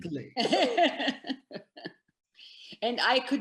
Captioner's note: laughs